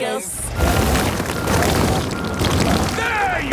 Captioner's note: rock crumbling